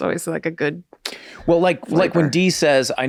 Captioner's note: clicks tongue